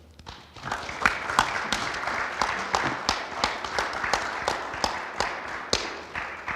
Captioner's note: panel applauding; audience applauding